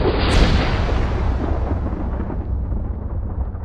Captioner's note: thunderclap